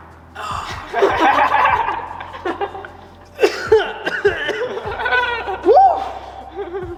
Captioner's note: wheezes while everyone else laughs